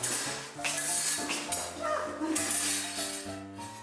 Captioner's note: none